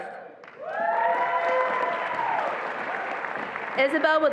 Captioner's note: attendees applauding and cheering